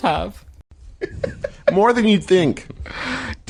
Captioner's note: Taako laughing